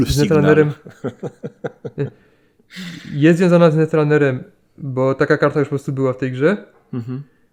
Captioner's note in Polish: śmiech